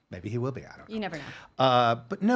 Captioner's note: laughing